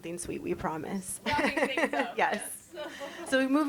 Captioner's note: chuckles